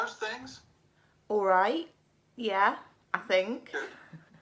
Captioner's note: laughs